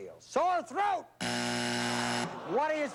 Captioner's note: buzzer